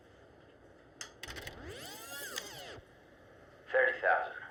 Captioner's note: tape rewinds; Billings over speaker